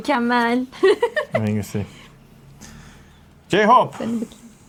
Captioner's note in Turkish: kahkaha